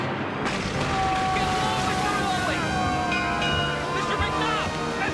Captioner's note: dramatic music; men shouting